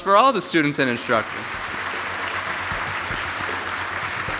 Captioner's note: applause